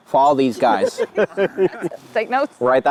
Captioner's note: group laughs